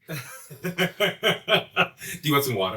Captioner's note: laughs